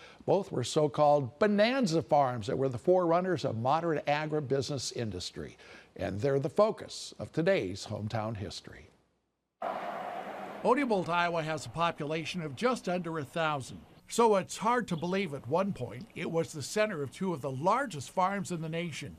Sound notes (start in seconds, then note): 9.6 sound of traffic